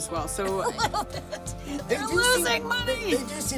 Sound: laughs

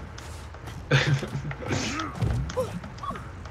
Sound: chortle

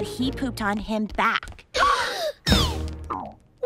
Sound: gasping

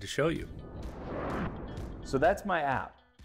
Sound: sound wave

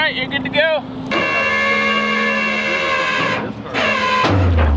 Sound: winch creaking

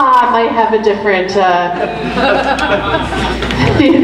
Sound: group laughs

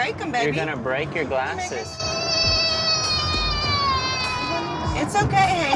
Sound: wailing

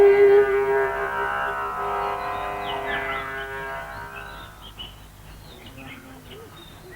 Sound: the sound of birds chirping

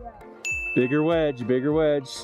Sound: bell dings

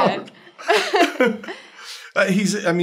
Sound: laughter

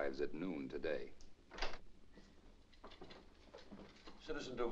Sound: door opens

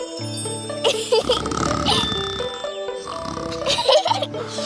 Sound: girls giggling; light music; man continues snoring

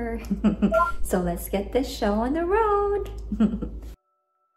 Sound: laughing; laughing

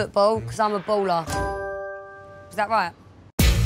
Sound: bell chimes

